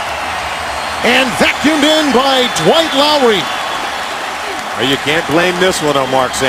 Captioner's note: cheers and applause